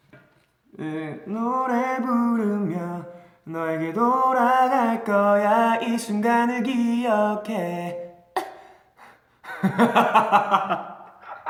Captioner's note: hiccup